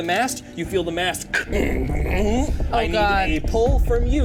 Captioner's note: vocalizes